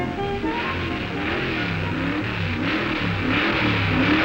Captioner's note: hot rods revving